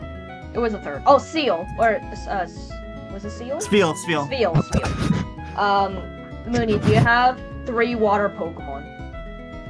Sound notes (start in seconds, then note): 4.6 chuckles™